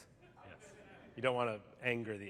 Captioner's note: laughter